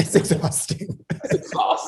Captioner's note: laughs